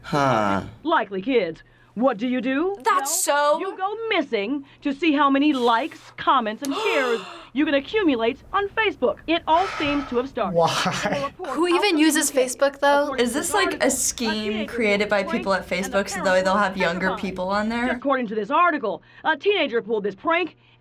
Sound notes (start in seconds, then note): 6.6 gasps; 9.4 sighs